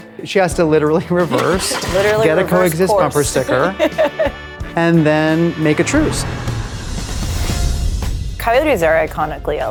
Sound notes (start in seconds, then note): 1.3 laughs